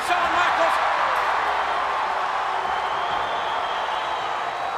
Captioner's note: audience cheers